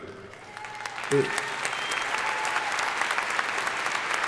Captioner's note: crowd applauding